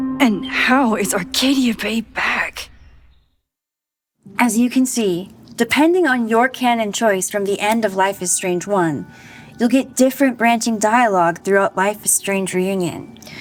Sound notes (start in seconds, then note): none